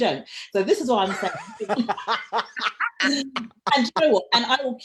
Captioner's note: both laughing